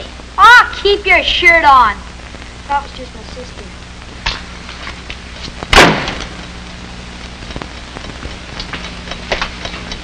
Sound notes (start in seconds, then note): 0.3 Eric yelling; 5.7 door slams; 7.5 clock ticking